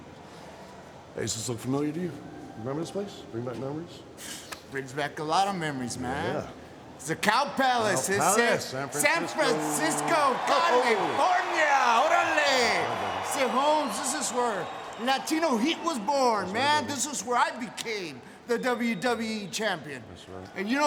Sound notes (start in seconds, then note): 11.7 speaks Spanish